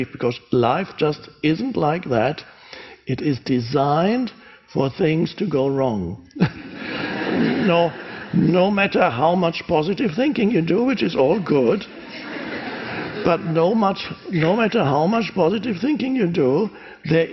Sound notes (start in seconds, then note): 6.4 audience laughs